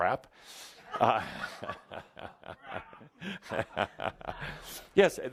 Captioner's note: laughter and Adamus chuckles